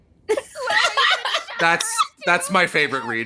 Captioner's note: laughs